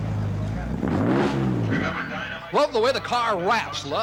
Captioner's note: engine revs